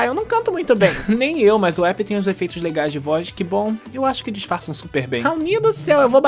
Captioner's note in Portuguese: risada